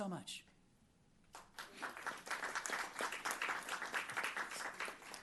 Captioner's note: applause